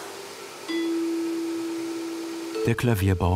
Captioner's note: various tones